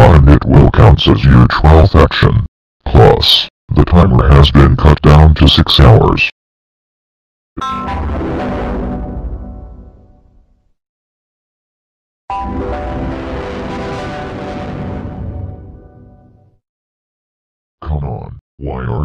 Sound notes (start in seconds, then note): 7.6 Devil Windows Server 2003 Shutdown Sound; 12.3 Devil Windows Server 2003 Startup Sound